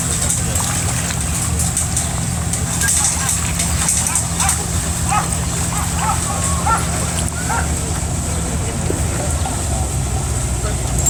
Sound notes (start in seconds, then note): 0.9 wind blows in the mic